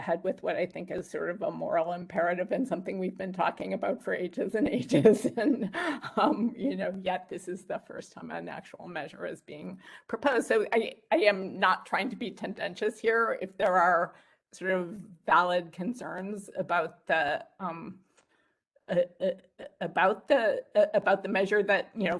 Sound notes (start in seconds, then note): 5.0 laughs